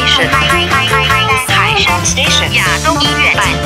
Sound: Mandarin

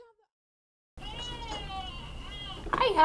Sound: crying

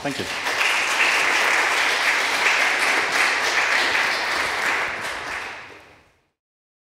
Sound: applause

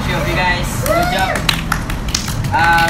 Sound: team cheers

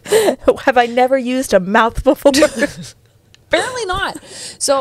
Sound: laughs

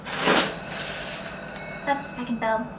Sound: bell ringing

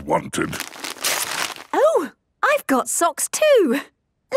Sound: tearing

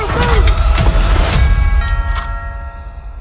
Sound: doorbell rings

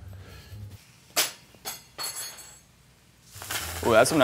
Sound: spoon clatters on floor

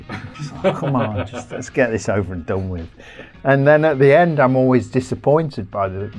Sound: chuckles

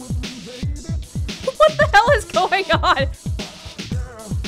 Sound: chuckles

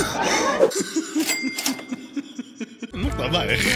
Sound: laughter

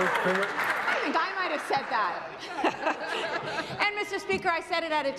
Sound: applause

